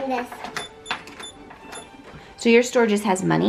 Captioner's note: beeping